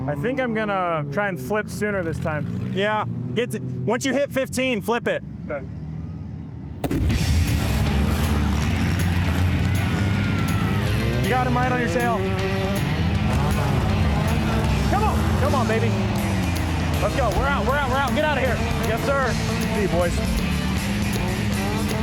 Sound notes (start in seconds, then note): 6.8 gunshot; 9.1 cars, crowd cheers; 13.4 impacts